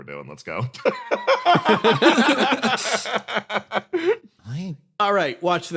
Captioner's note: laughs